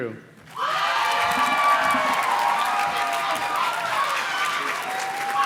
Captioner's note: audience cheers and claps